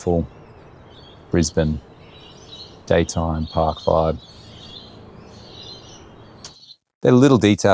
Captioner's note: birds chirping